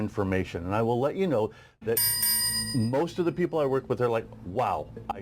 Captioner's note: bell ringing